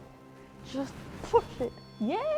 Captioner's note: REM pod beeps